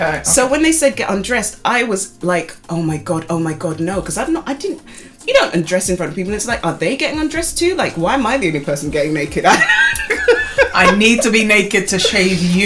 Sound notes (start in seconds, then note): 9.4 laughter